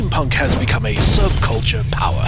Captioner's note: sounds of banana crashing through glass